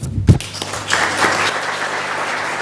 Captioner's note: applause